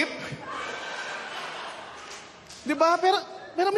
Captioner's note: laughter